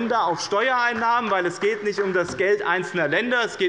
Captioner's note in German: Beifall des Abg